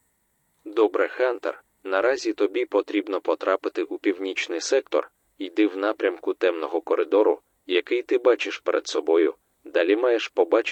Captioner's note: radio